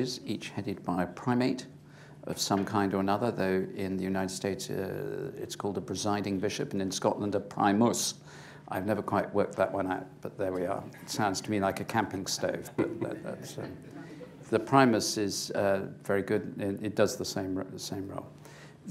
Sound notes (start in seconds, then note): 12.7 laughter